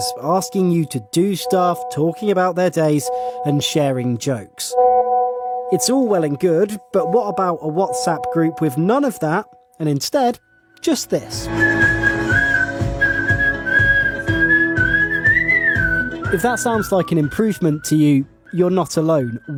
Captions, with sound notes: asking you to do stuff, talking about their days, and sharing jokes. [WhatsApp beeping] It's all well and good, WhatsApp group with none of that and instead just this? [whistling] If that sounds like an improvement to you, you're not alone.